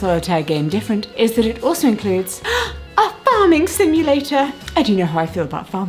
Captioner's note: gasp